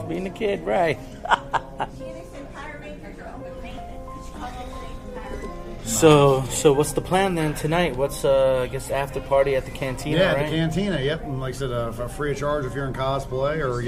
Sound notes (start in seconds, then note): 1.0 laughs; 2.3 crowd chattering